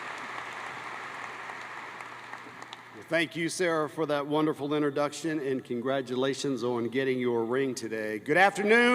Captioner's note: applause